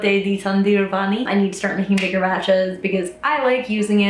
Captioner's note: claps hands